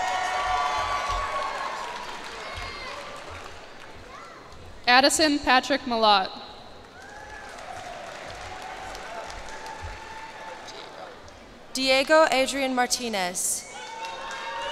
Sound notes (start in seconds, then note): 0.0 cheers and applause; 6.8 cheers and applause